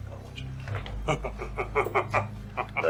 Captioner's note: Two Moons laughing